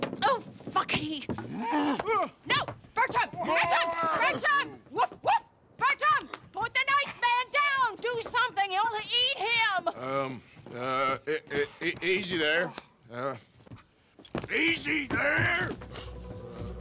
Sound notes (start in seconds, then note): 5.5 claps